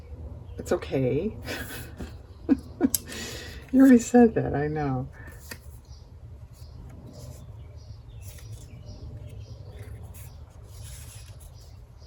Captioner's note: laughs